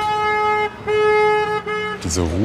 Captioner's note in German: Hupen